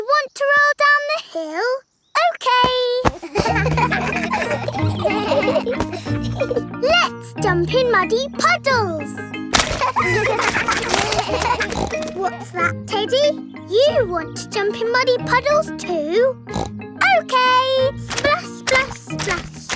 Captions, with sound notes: You want to roll down the hill? Okay! (KIDS LAUGHING) Let's jump in muddy puddles! (KIDS LAUGHING) (SNORTS) What's that, Teddy? You want to jump in muddy puddles too? (SNORTS) Okay! Splash, splash, splash!